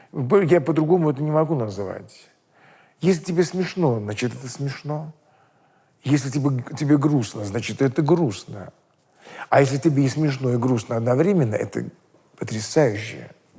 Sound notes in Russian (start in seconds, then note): none